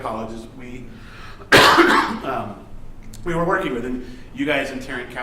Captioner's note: coughs